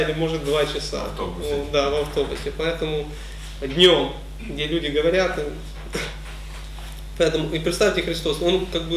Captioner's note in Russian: смеются; выдыхает